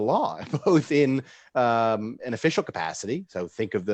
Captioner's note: laughs